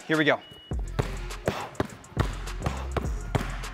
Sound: ball bouncing

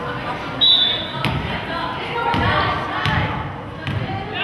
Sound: whistle blows

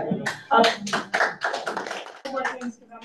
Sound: audience claps

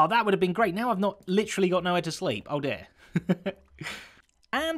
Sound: chuckles

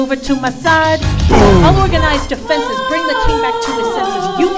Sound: boom!

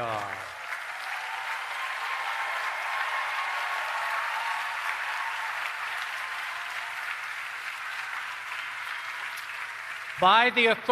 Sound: applause and Cheering

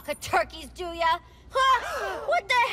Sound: crowd gasps

